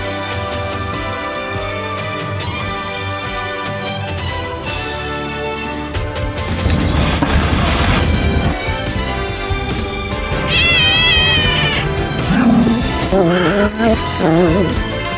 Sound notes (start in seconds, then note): 6.7 hisses; 10.3 meows; 10.3 Ella growls